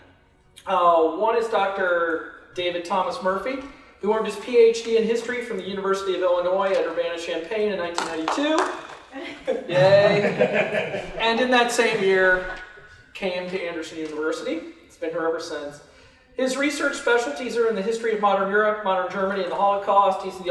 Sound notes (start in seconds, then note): 7.9 applause